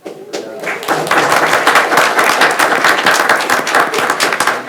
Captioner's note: attendees applauding